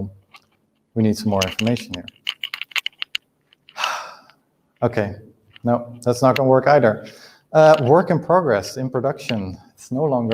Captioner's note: sighs